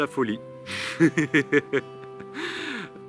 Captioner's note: laughter